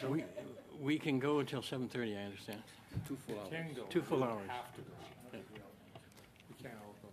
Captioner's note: laughter